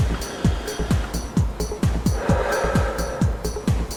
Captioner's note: he sighs